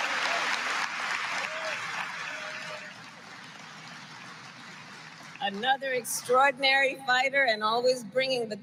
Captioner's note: applause